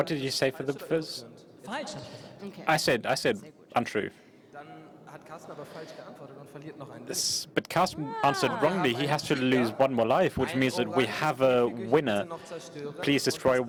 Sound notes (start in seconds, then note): 8.2 applause